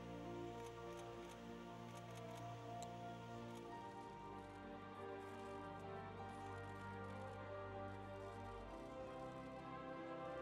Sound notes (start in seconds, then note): 1.2 camera clicking